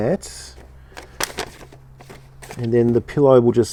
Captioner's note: paper rustling